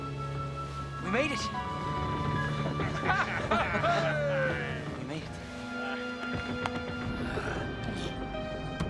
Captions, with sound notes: - We made it! (men laughing) We made it.